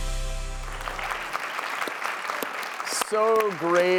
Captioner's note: audience clapping